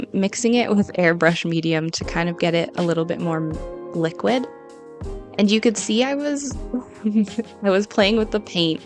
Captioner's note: giggle